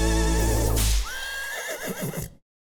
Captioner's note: horse neighing